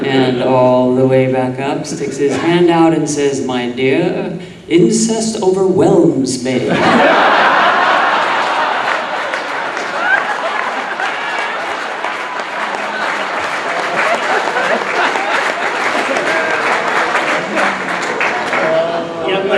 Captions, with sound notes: and all the way back up, sticks his hand out and says, "My dear, incest overwhelms me." (audience laughing)